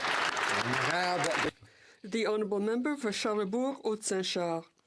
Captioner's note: some Applause